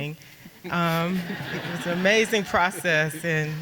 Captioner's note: audience laughing